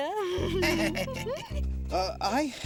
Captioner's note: laughing